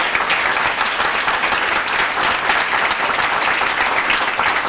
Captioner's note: applause